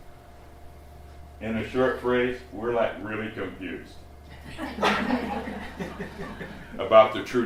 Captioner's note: slight laughter